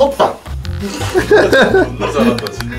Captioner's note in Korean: 빵 터지는 소리